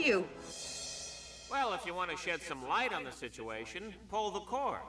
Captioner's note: radio